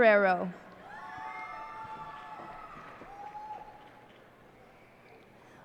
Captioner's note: cheers and applause